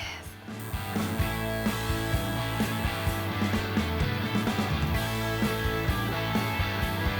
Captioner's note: upbeat rock music; machine buzzing